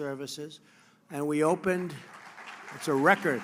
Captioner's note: applause